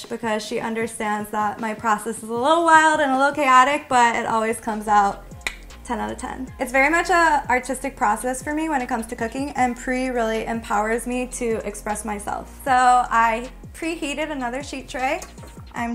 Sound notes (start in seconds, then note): 5.4 clicks tongue